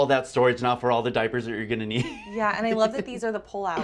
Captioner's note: laughs